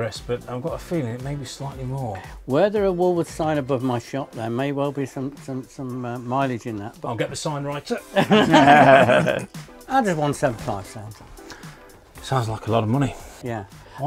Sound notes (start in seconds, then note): 8.1 all laughing